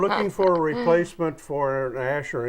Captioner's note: laughing